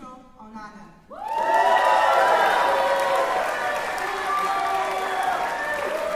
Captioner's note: cheering